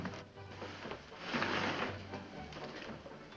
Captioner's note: window slides open